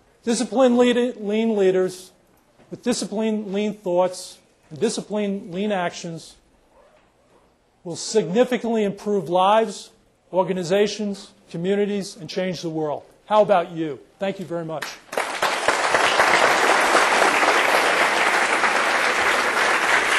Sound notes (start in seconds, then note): 14.8 applause